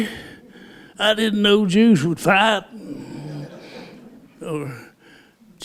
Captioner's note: laughter